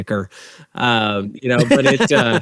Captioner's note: laughs